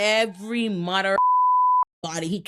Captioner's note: beep